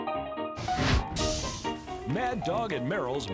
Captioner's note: piano music continues; sizzle